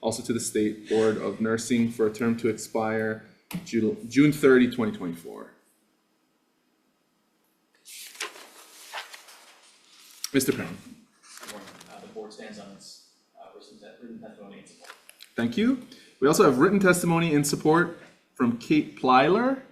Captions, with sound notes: also to the State Board of Nursing for a term to expire June 30th, 2024. (pages flipping) Mr. Crown. - Good morning. The board stands on its written testimony in support. - Thank you. We also have written testimony in support from Kate Plyler.